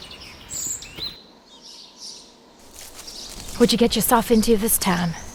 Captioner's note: birds chirp